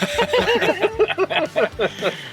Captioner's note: laughs